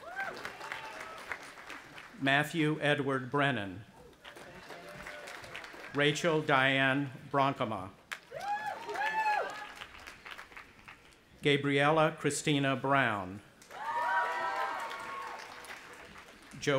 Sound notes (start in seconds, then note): 0.0 audience applauding and cheering; 4.2 audience applauding; 8.2 audience applauding and cheering; 13.6 audience applauding and cheering